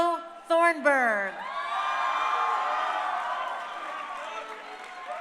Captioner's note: crowd cheering